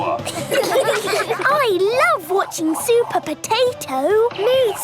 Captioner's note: children laughing